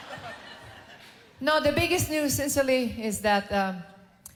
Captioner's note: laughter